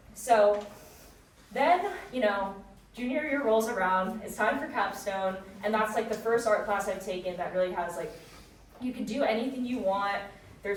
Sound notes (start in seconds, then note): none